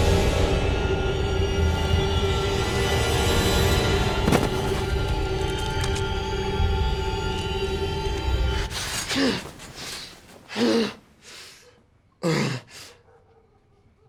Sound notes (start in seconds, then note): 0.2 light haunting music; 8.6 gasping; 11.0 breathing heavily